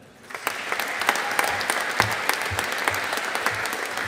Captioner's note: audience applauding